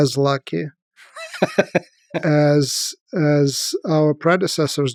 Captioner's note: Lex laughs